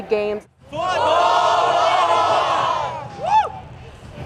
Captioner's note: crowd